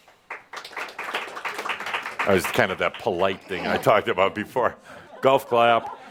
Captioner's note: some applause